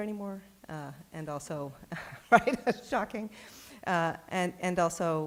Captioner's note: chuckles